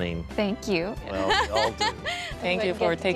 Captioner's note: laughs